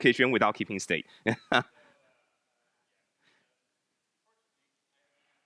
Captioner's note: laughs